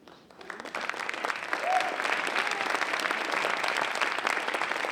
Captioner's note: audience applauding